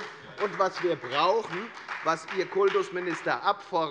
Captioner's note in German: Beifall bei der FDP